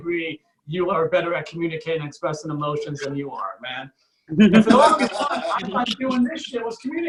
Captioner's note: audience Laughs